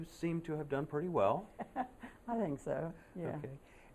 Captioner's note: laughter